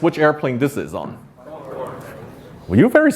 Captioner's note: audience answers